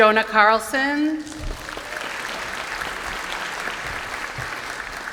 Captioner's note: applause